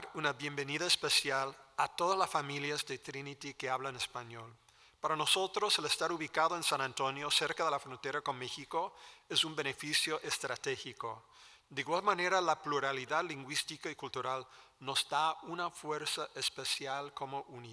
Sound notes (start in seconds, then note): 3.4 speaking Spanish